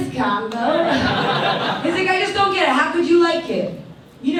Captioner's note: audience laughs